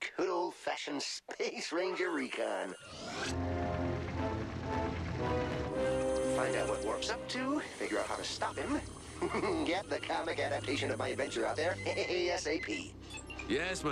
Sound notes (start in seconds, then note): 9.0 chuckles